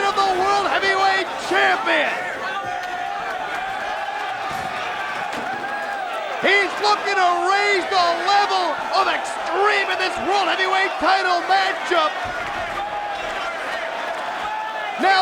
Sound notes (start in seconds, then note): 3.0 crowd cheering; 12.5 crowd vocalizing